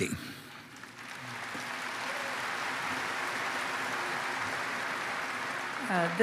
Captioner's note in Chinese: Applause; 掌聲